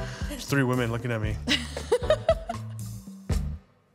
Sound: people laughing

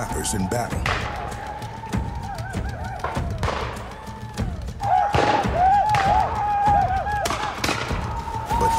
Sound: whooping sounds, gunshots

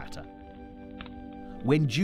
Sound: fire crackles

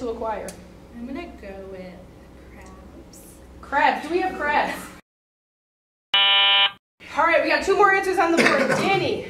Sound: wrong answer buzz

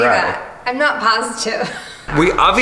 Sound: laughs

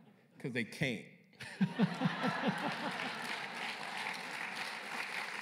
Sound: laughter; applause

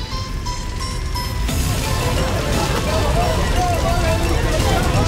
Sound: men yelling

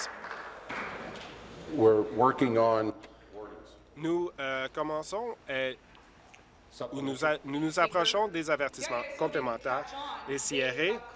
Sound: applause

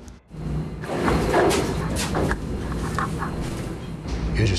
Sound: banging

